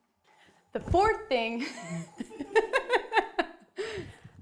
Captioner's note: laughing